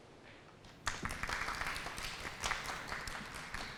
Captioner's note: applause